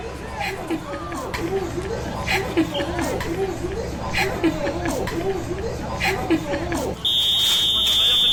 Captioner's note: timely TV noise hahaha